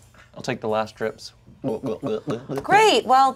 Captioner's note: glugs